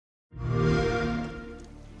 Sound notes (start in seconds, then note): 0.4 xbox sound